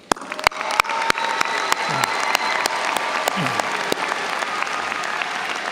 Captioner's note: audience cheers and applauds